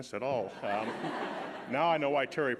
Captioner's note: audience laughing